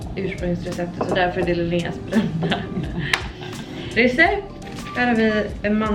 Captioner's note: laughs